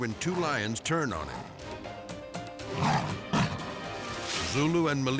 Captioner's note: suspenseful music; lion snarling